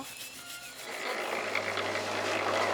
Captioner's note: rattling